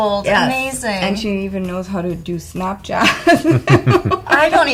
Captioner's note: laughing